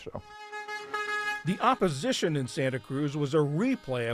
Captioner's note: voice-over